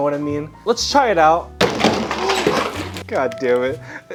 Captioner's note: thudding